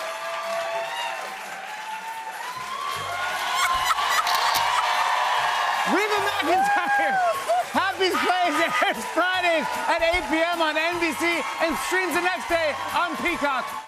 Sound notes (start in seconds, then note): 0.3 cheers and applause; 3.4 laughing; 4.2 camera shutter clicks